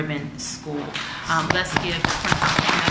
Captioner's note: applause